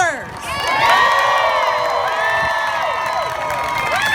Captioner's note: crowd cheers